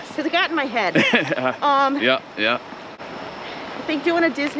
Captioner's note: laughs